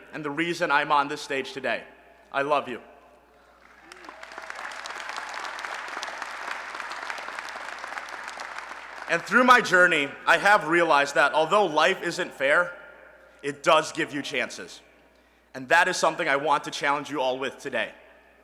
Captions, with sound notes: and the reason I'm on this stage today. I love you. [ Applause ] And through my journey, I have realized that although life isn't fair, it does give you chances. And that is something I want to challenge you all with today.